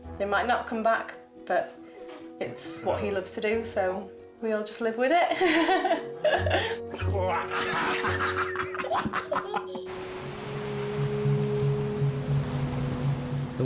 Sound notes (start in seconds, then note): 5.3 laughs; 7.4 chuckles; 11.0 dramatic music